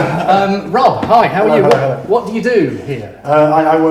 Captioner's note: chuckles